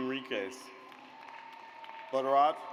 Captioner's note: audience applauds